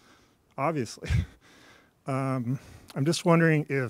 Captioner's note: laughs